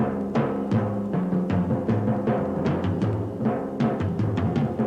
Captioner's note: none